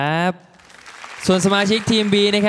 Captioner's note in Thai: ปรบมือ